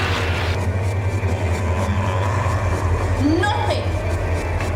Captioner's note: Evan groaning